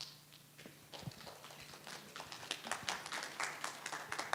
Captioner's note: audience applauds